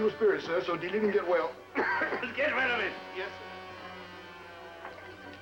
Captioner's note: coughing